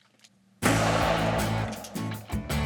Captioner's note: gunshot blasting; country music